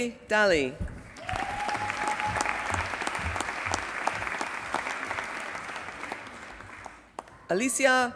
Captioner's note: applause